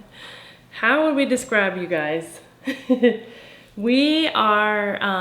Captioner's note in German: lacht